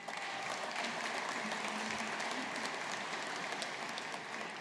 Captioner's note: audience applauding